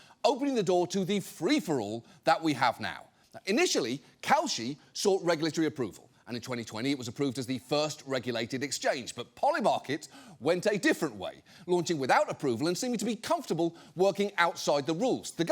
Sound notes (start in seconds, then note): none